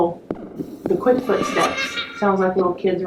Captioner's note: simulated footsteps/child laughing